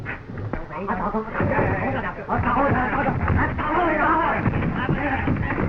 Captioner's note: men speaking in foreign language